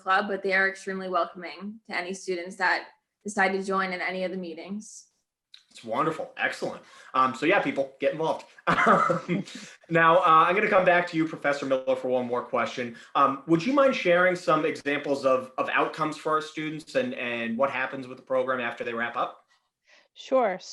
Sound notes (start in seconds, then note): 8.6 chuckles